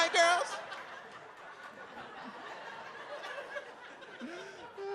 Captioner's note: audience laughs